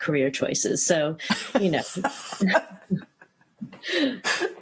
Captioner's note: laughter